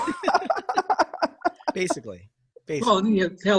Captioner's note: laughing